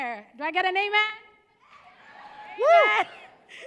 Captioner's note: cheering